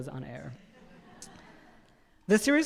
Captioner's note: audience laughing